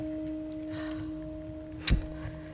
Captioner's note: regretful sigh